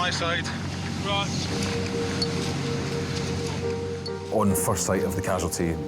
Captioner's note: lifeboat engine whirring